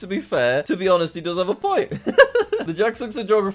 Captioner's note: laughs